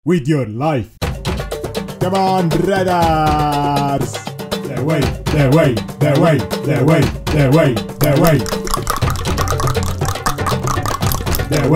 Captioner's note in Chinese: 召喚bgm再次響起; 大量彈舌